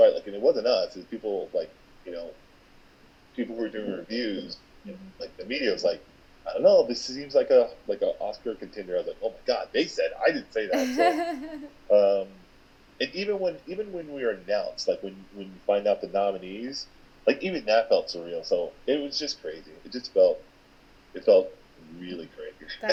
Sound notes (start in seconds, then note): 10.7 laughing